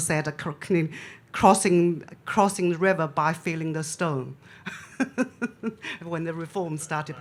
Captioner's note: laughs